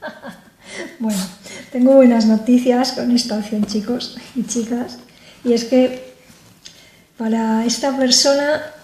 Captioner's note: laughs